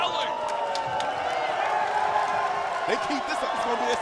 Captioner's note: crowd cheering